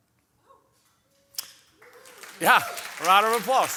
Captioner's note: audience applauding